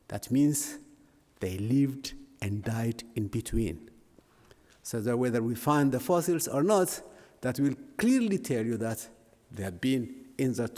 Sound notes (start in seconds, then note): none